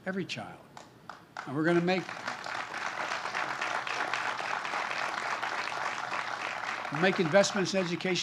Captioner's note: applause